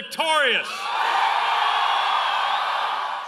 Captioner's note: cheering and applause